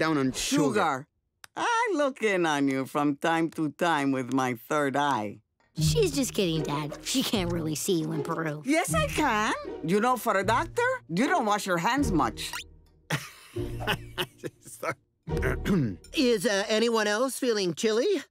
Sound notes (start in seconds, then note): 13.1 laughs nervously; 15.4 clears throat